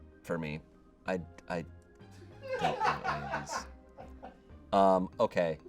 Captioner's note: audience laughing